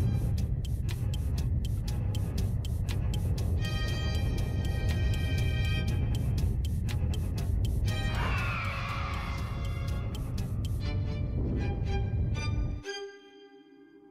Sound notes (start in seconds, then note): 0.2 frantic music plays; 8.0 screeching noise